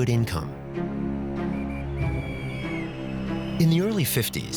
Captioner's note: policeman blows whistle